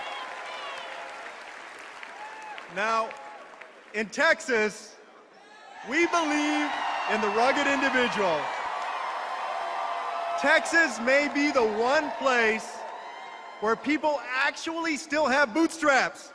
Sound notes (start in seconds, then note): 0.0 applause; 5.0 applause and cheers; 10.4 applause and cheers